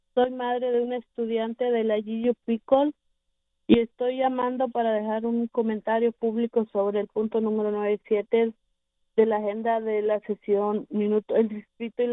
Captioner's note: speaking spanish